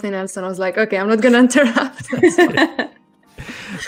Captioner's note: laughs